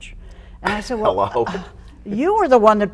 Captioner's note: sighs